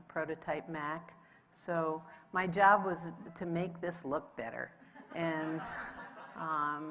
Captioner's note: audience laughs